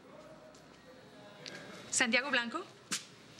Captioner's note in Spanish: bullicio